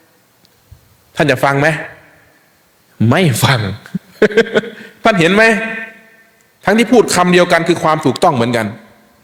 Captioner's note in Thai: เสียงหัวเราะ